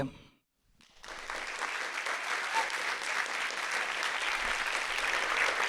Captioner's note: audience applauding